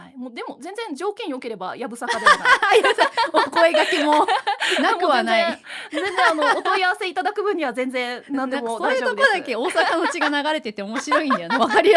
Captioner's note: laughs